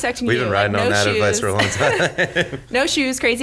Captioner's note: laughs